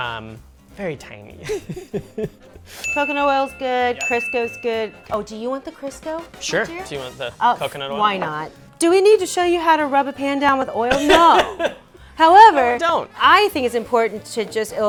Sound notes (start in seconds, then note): 1.4 laughs; 2.8 ding